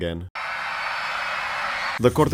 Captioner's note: screams